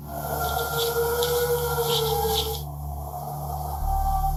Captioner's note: inhuman howling